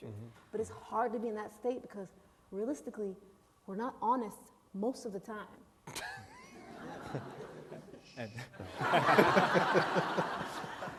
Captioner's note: laughter